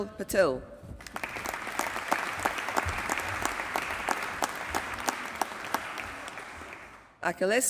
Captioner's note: applause